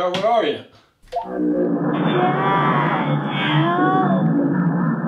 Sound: otherworldly noises

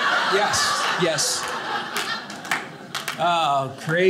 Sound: audience laughing

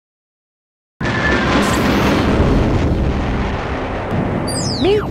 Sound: sound Effects

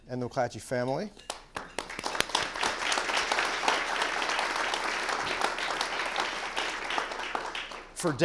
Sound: applause

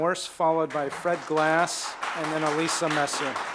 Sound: applause

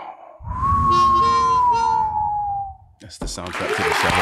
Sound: whistles

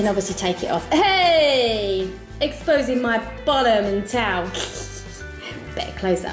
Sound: sniggers

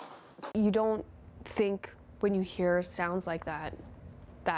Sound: gunshots

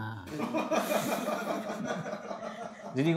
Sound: laughter in the studio

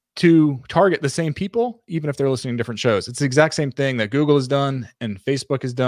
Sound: none

